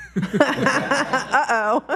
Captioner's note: panel laughs